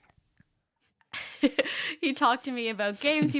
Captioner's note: giggling